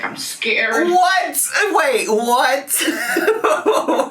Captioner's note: laughing